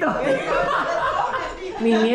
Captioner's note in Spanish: Carcajadas